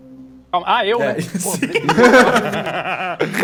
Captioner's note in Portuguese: Risadas